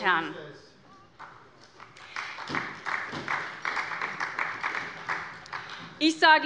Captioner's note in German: Beifall bei Abgeordneten der SPD